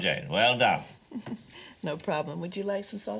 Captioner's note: chuckles